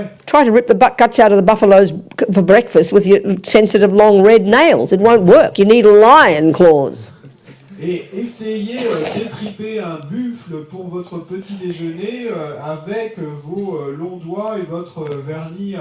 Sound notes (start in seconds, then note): 0.0 audience member speaks in French; 7.2 audience member speaks in French